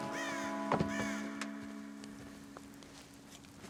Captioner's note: bird squawking